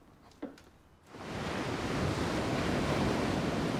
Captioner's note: waves crashing